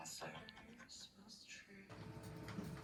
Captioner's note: laughs while listening